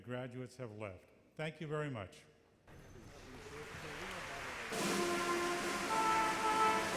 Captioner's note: audience applauds